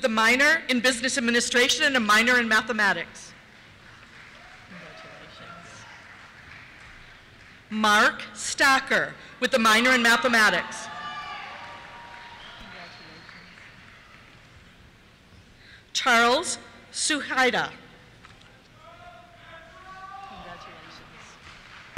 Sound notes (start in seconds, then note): 4.2 cheers; 9.8 cheers; 19.5 cheers